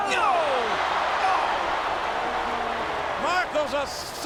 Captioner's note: crowd cheering